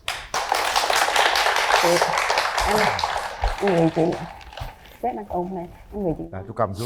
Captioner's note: applause